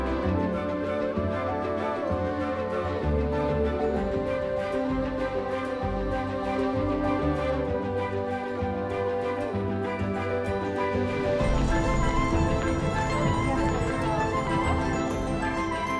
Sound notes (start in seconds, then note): 0.2 energetic music; 11.9 raindrops falling; 13.9 energetic music